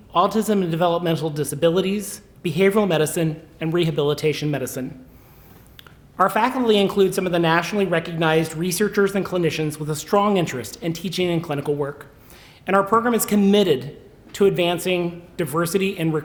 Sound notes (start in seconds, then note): none